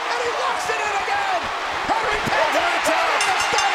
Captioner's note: applause